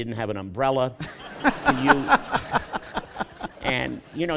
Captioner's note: laughter